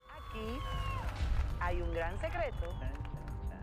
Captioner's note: vítores